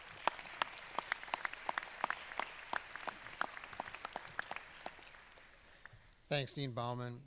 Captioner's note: applause